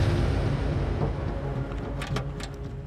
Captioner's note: safety catch clicks